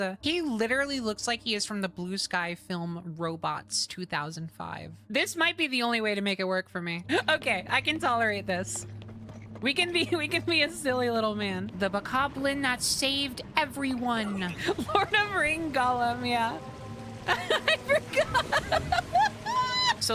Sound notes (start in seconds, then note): 14.1 laughing; 17.2 laughing